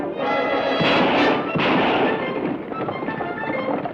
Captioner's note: gun fires